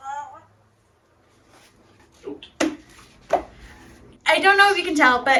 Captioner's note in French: Bruits incohérents de tout-petits